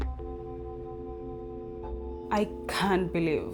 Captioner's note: dial tone buzzing